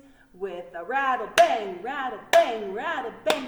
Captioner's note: clap hands